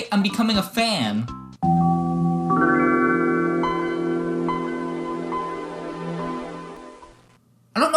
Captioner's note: transformation sound